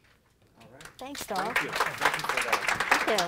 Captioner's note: applause